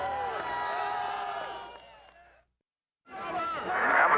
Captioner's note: fans cheering